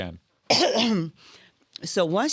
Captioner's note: coughing